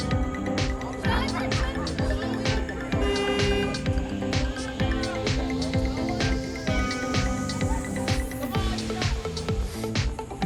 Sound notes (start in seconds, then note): 3.0 car horn